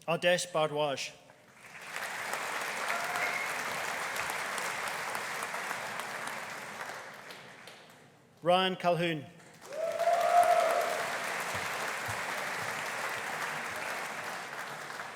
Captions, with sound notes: Adarsh Bhardwaj. (AUDIENCE APPLAUDING) Ryan Colquhoun. (AUDIENCE CHEERING) (AUDIENCE APPLAUDING)